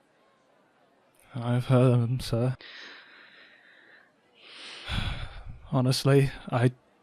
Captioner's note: sighs